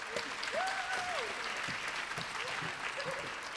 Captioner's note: applause